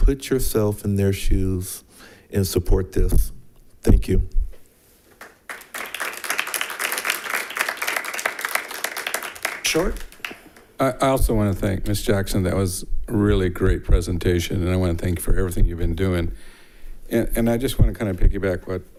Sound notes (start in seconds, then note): 5.1 members clapping